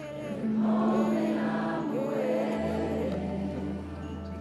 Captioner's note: giggles